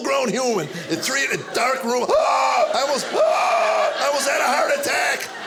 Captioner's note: gasp